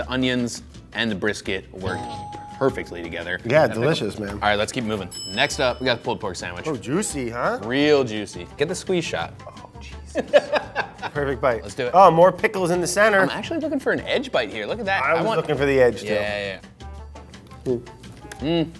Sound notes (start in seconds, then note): 5.1 bell dings; 10.1 laughs